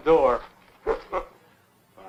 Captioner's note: laughs